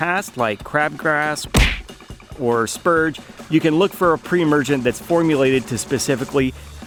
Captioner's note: punching sound